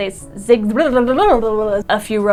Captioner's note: flubbering sounds